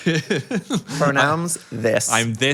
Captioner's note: Phil laughs